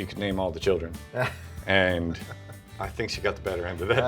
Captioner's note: laughs